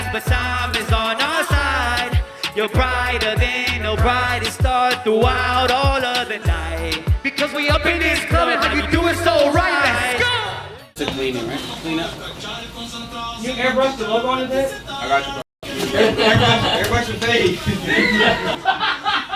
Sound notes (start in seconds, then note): 15.6 group laughs